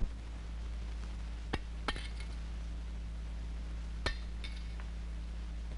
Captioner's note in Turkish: Cama atılan küçük taşların sesi